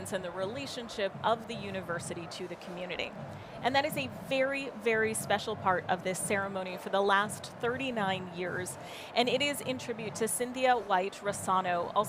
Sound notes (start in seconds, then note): none